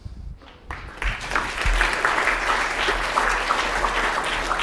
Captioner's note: applause